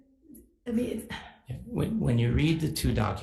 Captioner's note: sighs